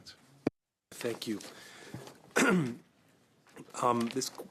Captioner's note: speaking French